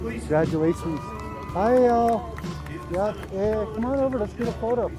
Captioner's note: speaks in Navajo